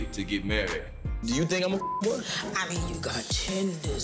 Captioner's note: beep